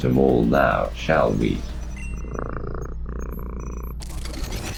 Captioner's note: Robotic voice; purrs; glitch SFX